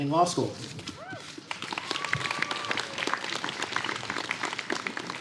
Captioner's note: applause